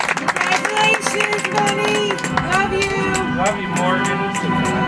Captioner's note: audience applauds